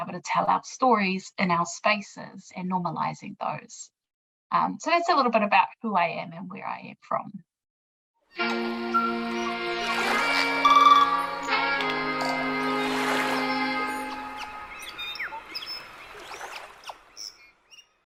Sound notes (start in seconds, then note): 8.9 tranquil birdsong